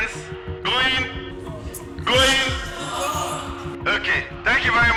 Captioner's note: crowd